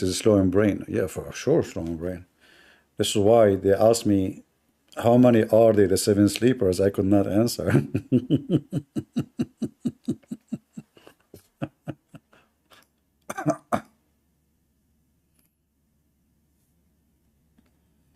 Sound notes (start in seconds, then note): 7.6 Ketawa